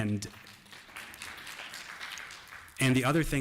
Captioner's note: applause